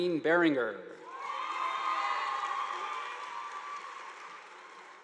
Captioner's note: audience applauding